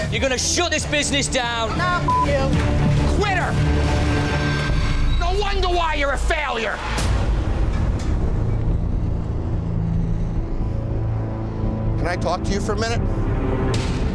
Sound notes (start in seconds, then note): 1.8 beep; 7.1 shocking music